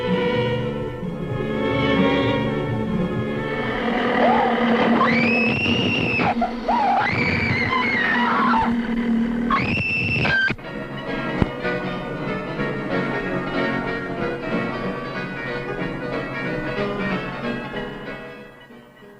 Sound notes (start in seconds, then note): 3.2 growling; 4.0 Natalie screams; 11.0 piano playing